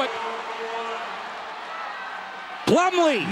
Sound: crowd cheering

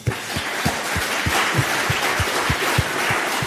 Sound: applause

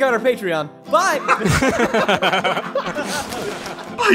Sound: laughter

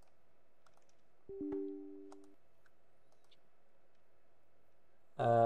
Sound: pause

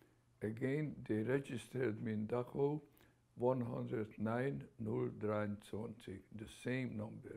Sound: german

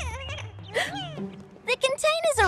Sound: gasps

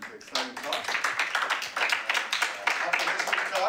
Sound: applause

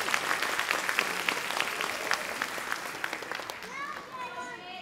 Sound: audience clapping

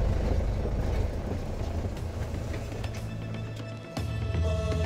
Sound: engine running

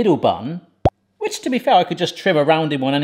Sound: graphics pop

